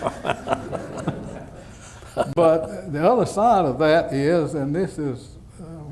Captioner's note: laughter